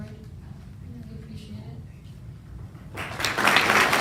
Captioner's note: applause